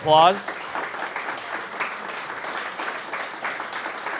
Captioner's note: audience applauds